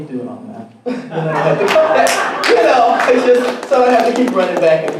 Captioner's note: audience laughing and applauding